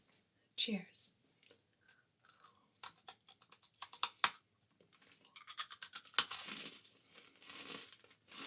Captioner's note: asmr crunching